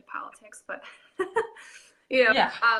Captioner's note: laughing